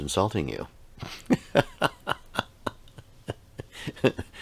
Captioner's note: laughs